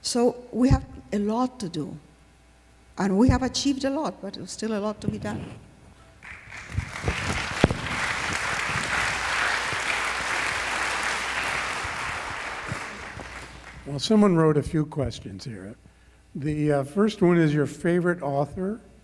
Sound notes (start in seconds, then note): 6.2 applause